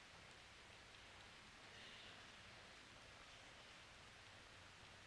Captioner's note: none